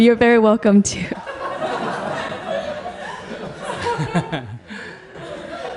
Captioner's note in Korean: 청중/스님 웃음